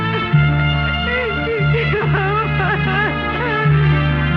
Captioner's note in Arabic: إلسا تستمر بالبكاء